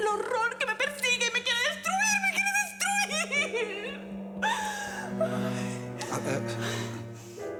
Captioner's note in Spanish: Sollozos